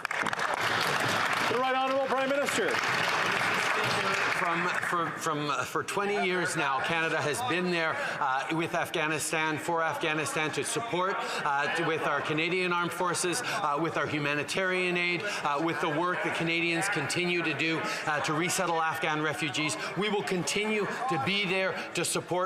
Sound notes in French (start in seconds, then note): 9.0 voix de l'interprète